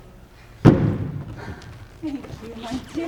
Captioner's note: sets footstool down heavily